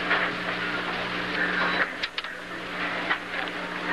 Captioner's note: clatter